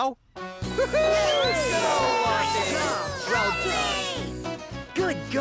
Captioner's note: All Cheering Lofty